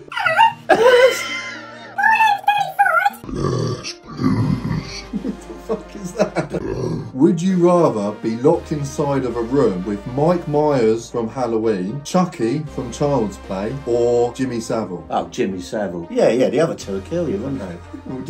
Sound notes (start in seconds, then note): 0.7 imitating a high voice